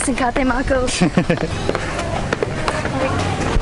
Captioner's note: laughs